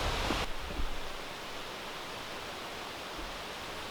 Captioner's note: leaves rustling